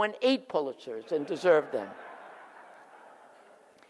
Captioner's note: audience laughs